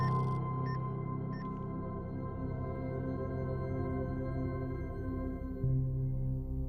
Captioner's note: EKG machine beeping; electronic chime